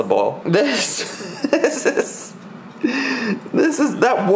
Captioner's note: laughs